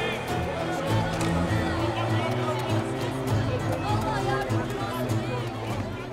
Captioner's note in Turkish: Kalabalık konuşma sesleri